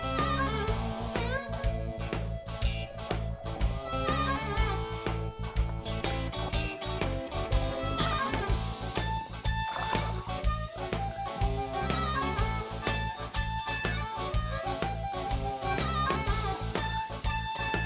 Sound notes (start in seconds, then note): 4.7 upbeat country rock music continues; 9.7 water splashing; 9.9 upbeat country rock music